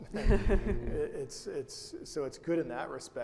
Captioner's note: laughs